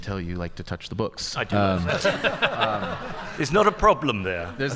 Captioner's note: audience laughing